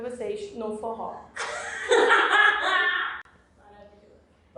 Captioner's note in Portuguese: risos